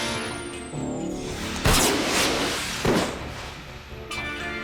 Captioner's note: gunshot